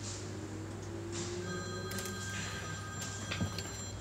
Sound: phone rings

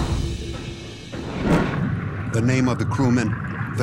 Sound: water rushing

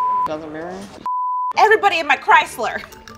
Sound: beep

